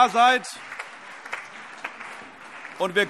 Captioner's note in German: Allgemeiner Beifall